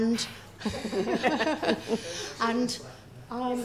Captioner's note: laughing